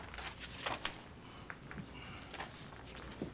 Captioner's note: exhales